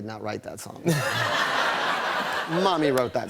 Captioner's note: laughter